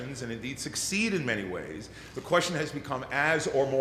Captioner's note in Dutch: none